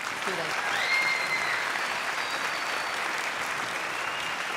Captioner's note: crowd applauding